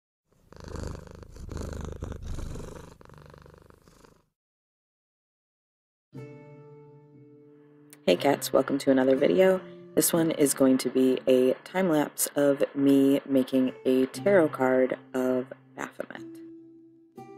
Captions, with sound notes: [purring] Hey, cats! Welcome to another video. This one is going to be a time lapse of me making a tarot card of Baphomet.